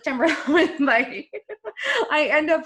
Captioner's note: laughing